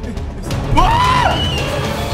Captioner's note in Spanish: Grita